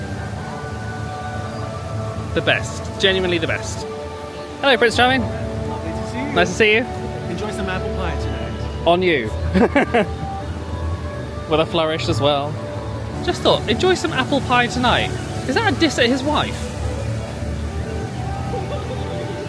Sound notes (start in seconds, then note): 9.4 laughing